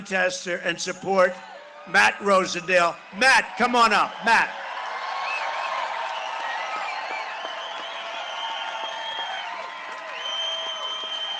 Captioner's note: cheering and applause